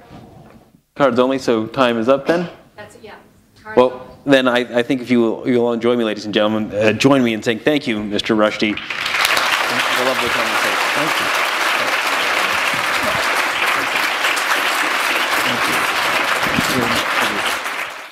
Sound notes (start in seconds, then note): 11.0 applause